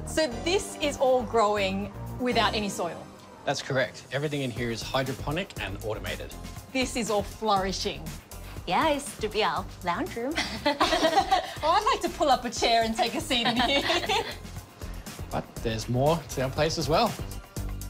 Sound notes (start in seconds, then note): 10.3 laughs